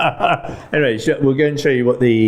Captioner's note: laughing